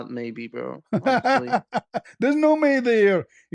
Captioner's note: ketawa